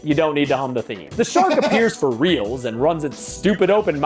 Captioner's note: laughs